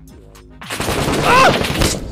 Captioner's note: gunshots